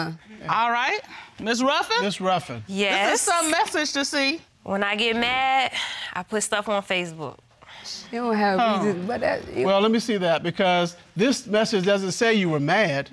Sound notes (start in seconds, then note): 7.9 judge muttering